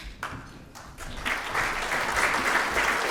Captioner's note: applause